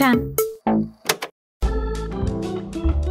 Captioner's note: tape clips off